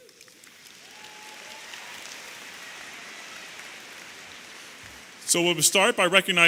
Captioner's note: audience applauding and cheering